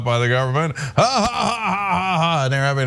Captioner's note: laugh